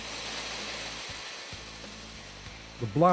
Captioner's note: water gushing out